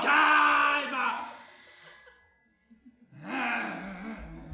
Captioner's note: the phone rings; growl